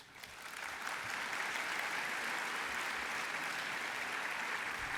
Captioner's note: applause